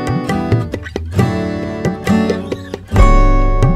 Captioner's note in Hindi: none